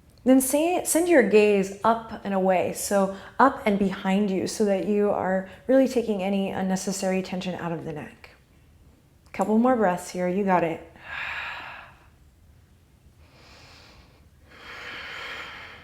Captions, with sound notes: Then send your gaze up and away, so up and behind you, so that you are really taking any unnecessary tension out of the neck. Couple more breaths here, you got it (exhale). (deep breathing)